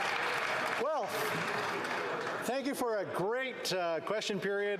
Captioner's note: some Applause